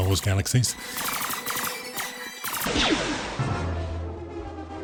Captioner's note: gunshots